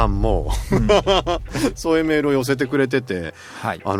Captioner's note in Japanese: 笑い